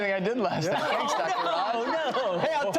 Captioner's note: laughter